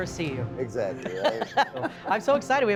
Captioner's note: laughing